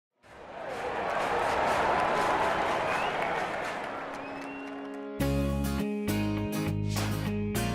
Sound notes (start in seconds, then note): 0.2 crowd talking, clapping; 4.2 upbeat music fades in